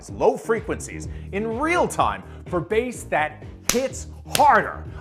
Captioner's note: fist thumping